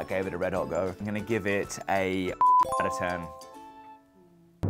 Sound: beep

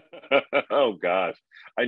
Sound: laughing

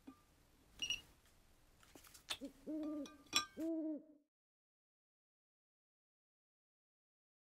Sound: owl hoots

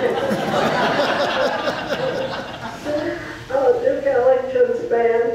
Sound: audience laughs

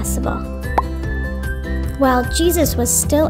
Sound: bubble popping

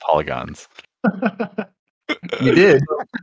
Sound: laughter

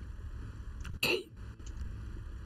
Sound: whispers

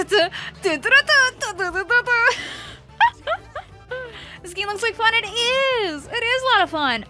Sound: laughs

